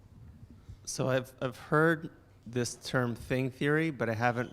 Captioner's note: voiceover